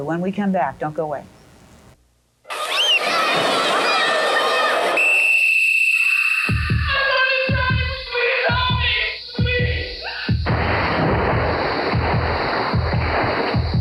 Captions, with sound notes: When we come back, don't go away. (children screaming in joy) (whistle blows) (children scream in terror) - Somebody's drowning, please help me. Please. (heartbeat pumps)